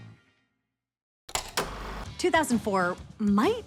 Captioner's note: film reel clicks